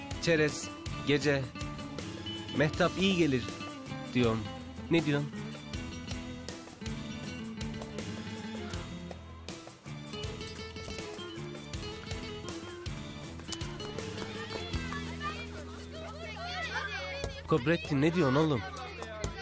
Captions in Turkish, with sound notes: Çerez, gece....Mehtap iyi gelir diyorum. Ne diyorsun? [Ayakkabı sesi] Kobrettin ne diyorsun oğlum.